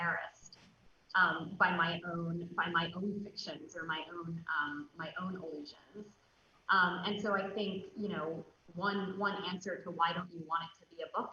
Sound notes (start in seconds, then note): none